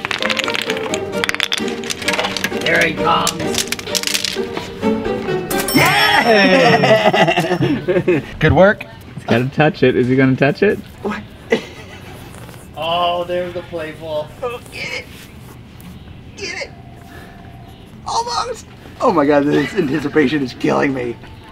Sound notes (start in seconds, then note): 0.0 bones clattering; 3.2 rawhide chews clattering; 5.5 cash register dinging; 5.6 group cheering